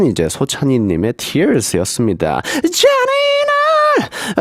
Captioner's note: tears